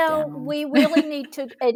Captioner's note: laughs